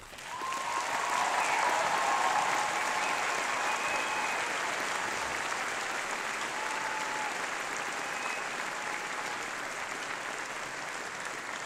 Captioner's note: applause